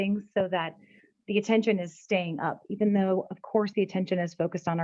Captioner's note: none